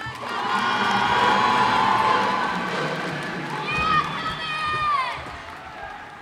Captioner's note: cheers and applause